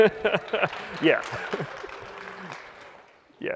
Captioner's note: applause